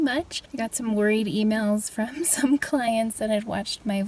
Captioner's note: chuckles